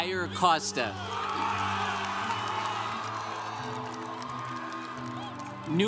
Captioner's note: congregation cheering